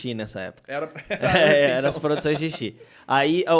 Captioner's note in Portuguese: risos